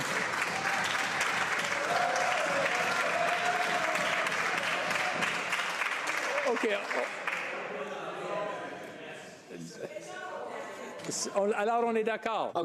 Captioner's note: applause